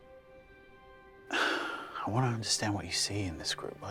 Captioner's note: sighs